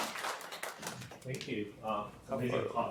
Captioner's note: students clapping; background static